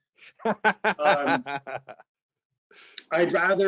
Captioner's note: laughing